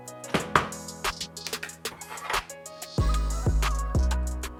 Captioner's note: container clatters